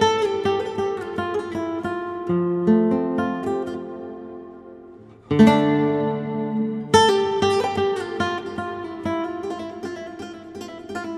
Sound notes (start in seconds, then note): none